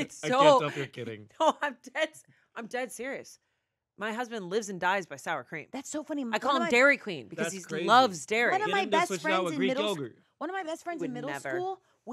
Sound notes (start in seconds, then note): 0.0 laughs